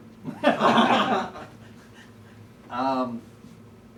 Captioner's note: laughing